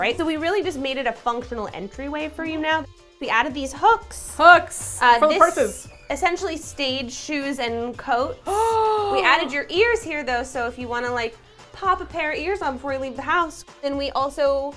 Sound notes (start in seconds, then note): 8.4 gasps